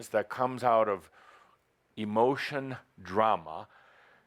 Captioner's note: none